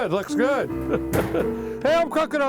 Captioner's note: piano keys playing; chuckling